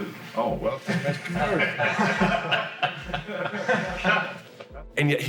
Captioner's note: laughter